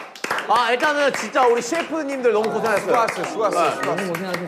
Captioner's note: applause for hard-working chefs